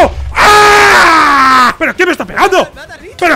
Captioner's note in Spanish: grita